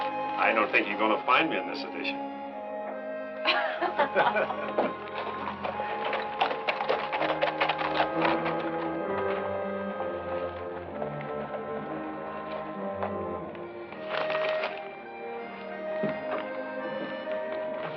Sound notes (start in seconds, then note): 3.4 both chuckle; 8.9 tense music